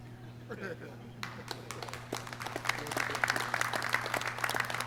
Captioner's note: clapping